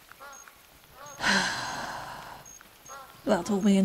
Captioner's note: overly dramatic sigh